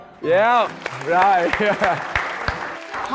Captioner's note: clapping hands